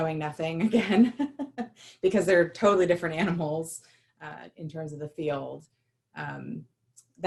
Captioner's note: laughter